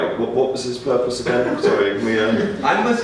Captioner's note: audience laughs